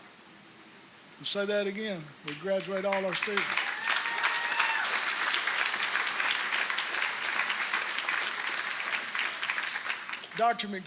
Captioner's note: applause